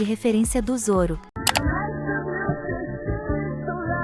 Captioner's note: click sound